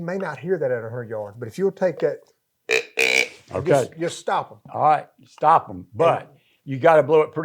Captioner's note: grunts